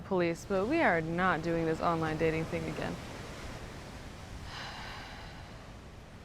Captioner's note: sighs